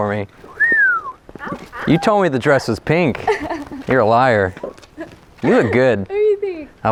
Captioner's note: whistles